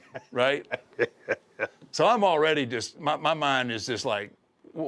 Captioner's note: laugh